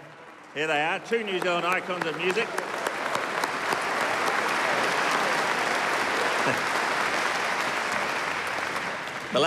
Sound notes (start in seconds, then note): 3.0 applause